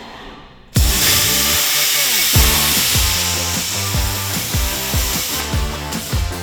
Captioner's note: energetic upbeat music; sparks buzzing